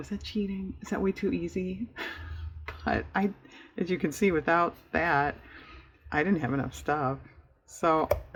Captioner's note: laughs